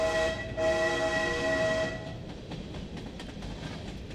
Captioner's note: barulho de trem